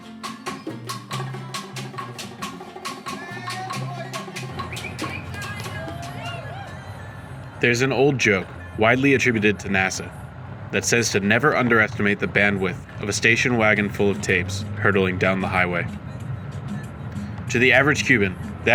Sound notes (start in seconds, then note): 3.2 singing in foreign language; 4.5 singer whistling; 6.2 singers cheering